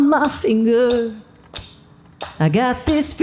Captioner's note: hands clapping